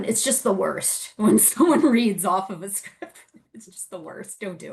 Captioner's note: laughs